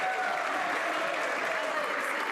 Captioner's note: some Applause